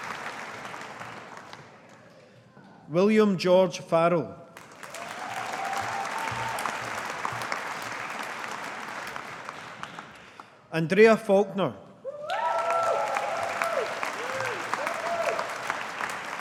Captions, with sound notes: William George Farrell. (AUDIENCE APPLAUDING) Andrea Faulkner. (AUDIENCE APPLAUDING)